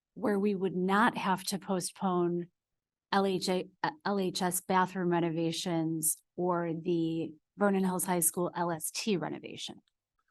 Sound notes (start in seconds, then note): none